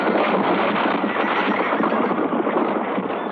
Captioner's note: horse neighing